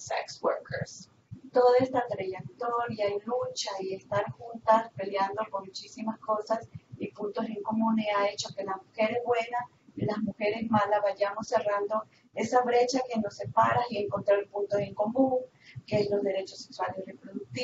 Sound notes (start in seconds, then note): 2.4 Spanish